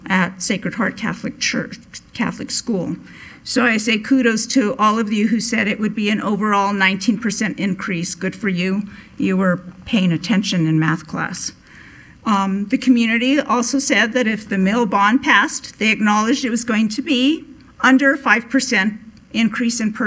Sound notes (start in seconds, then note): none